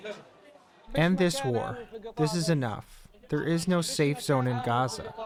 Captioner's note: through translator